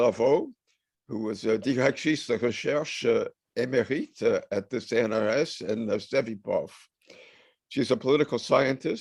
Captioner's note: french